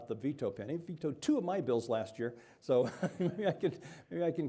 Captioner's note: chuckling